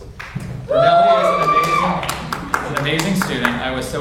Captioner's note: audience cheers